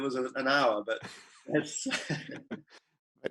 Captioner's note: laughing